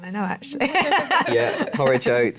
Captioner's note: laughter